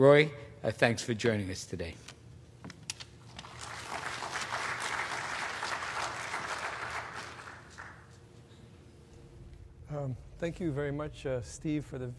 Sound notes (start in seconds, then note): 3.3 applause